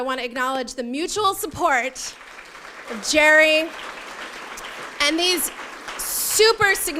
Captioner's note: applause